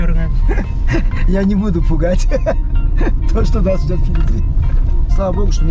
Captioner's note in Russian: смеётся